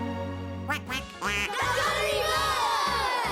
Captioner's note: duck quacks